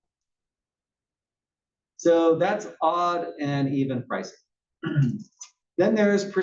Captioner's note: cough